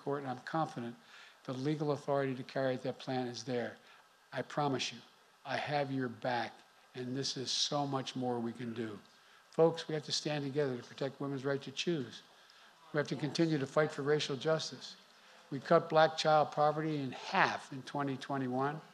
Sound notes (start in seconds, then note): none